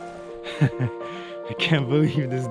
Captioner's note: giggling